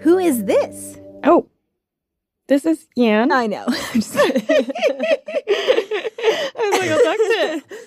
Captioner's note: laughs